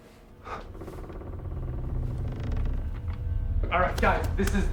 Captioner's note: creaking